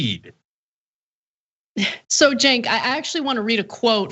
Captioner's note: cough